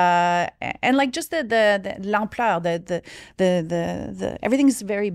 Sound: speaks in French

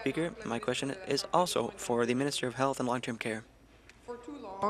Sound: speaking in French

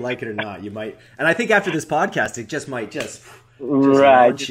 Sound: claps

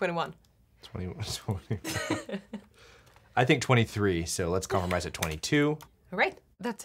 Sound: laughing

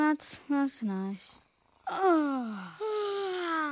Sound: yawns

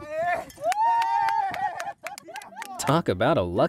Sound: partner cheering

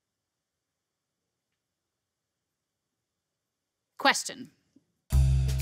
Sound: silence

